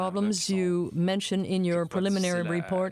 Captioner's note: speaking french